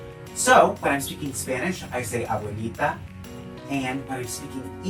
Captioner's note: speaking in Spanish